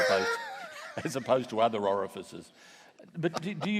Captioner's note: laughs